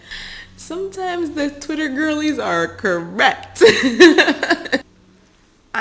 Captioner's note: chuckles